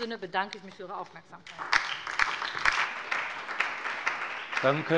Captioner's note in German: Beifall bei der SPD, der LINKEN und der FDP